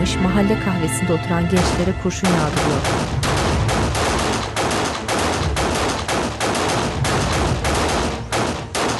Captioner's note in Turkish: Silah sesleri